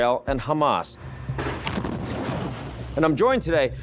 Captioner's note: bomb explodes